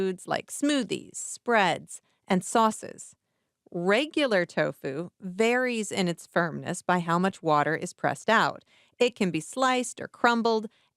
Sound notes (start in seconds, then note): none